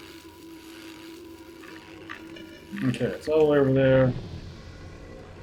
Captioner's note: none